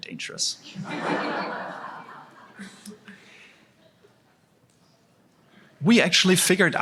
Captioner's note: laughter